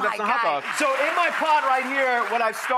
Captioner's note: audience applauds